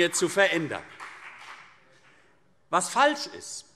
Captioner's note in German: Beifall CDU und BÜNDNIS 90/DIE GRÜNEN